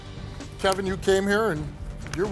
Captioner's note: none